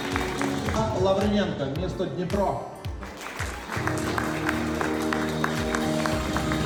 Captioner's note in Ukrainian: оплески